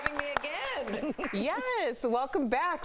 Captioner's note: applause